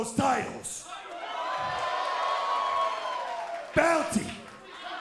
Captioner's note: crowd cheering